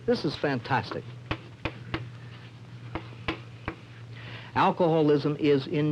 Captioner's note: chalk tapping